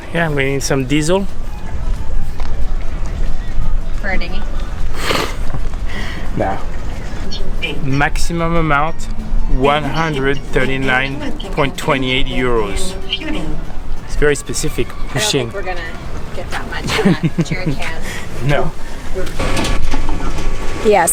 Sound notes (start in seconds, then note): 6.5 laughing